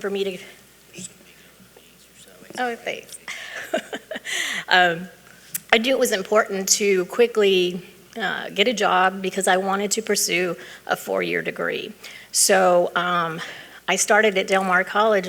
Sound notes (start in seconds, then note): 3.1 chuckling